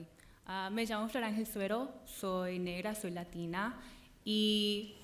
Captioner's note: speaking in Spanish